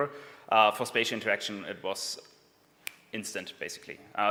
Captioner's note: snaps